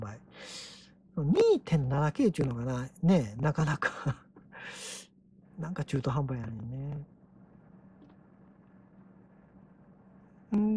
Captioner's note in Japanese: 笑い